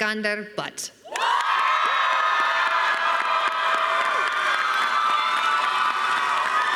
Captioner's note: crowd cheering and applauding